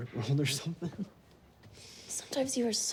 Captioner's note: chuckles